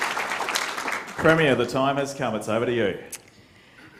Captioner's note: applause